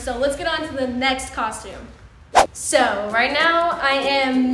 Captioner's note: none